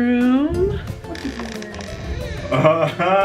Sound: door creaks

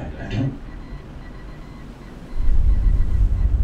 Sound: morse Code In The Distance

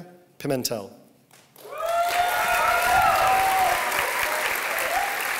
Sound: applause

